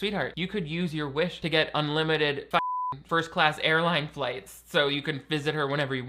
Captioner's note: beep